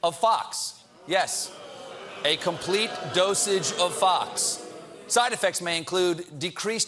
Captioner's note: audience reacts